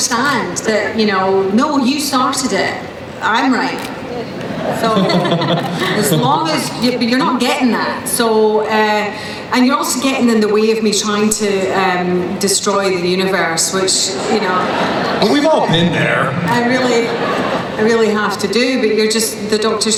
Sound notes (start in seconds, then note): 4.4 chuckling; 15.5 voiceover